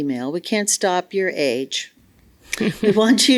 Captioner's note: laughs